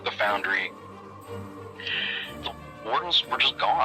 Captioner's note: exhales